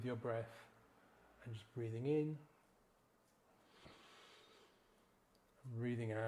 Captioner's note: gently inhales